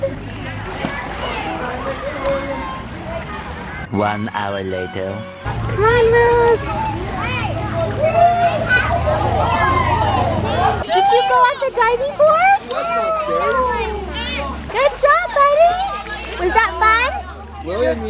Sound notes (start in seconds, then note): 0.0 children chatting; 4.1 creepy Voice; 7.6 man cheers; 13.7 child chatters